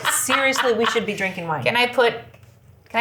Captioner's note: laughs